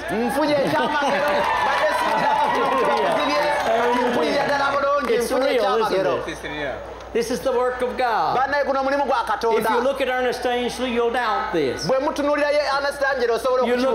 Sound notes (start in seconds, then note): 0.1 applause and cheering